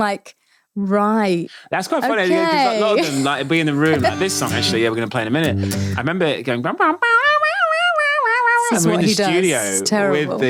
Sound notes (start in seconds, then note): 6.6 imitating guitar sounds